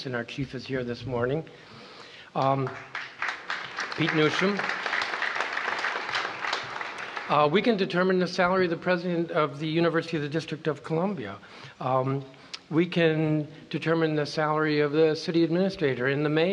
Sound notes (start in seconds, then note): 2.4 applause